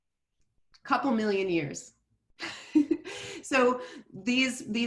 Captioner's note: chuckles